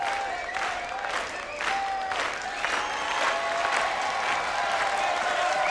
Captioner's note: crowd